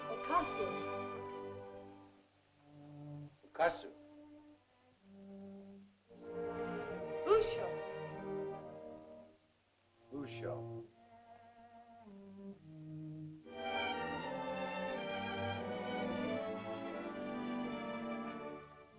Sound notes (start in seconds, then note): 3.5 Tumak speaks in caveman language; 5.5 sentimental music; 10.0 Tumak speaks in caveman language; 13.4 soft sentimental music